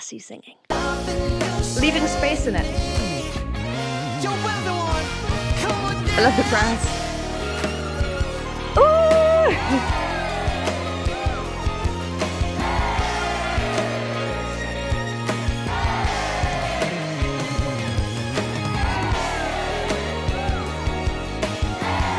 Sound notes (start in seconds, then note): 7.1 upbeat music; 9.9 audience cheers; 9.9 upbeat music